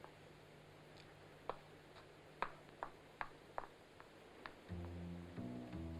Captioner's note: brisk footsteps; suspenseful jazz music